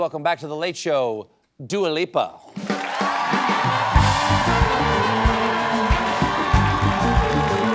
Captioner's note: cheers and applause